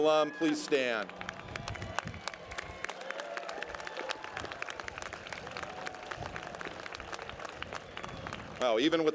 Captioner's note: applause